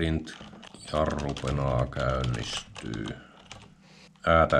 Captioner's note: in finnish dialect